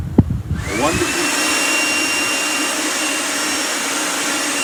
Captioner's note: fan propeller revving